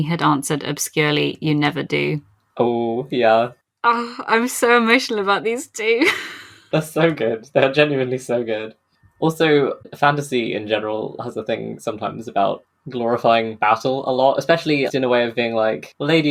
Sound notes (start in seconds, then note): 6.7 laughs